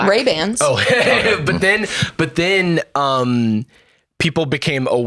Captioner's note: laughs